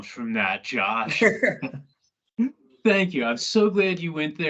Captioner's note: laughs